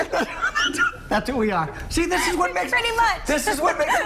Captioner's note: laughter